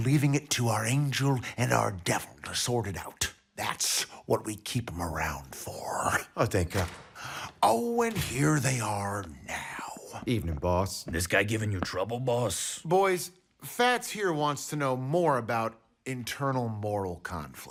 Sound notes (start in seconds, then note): 6.6 door opens